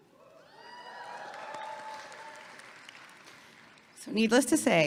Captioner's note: audience clapping and cheering